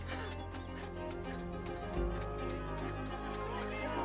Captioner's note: panting